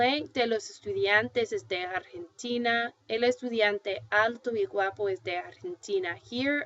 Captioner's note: foreign language